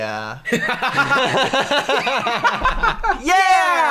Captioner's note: laughter